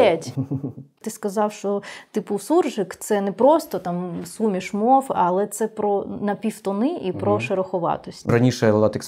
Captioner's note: a mixed speech blending Ukrainian with elements of other languages